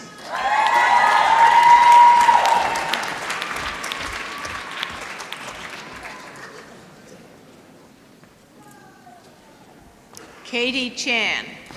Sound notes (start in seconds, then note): 0.0 applause